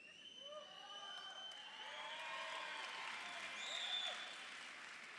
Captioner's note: audience applauding